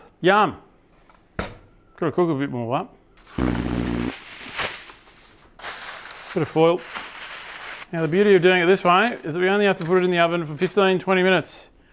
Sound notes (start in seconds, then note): 3.2 silly noise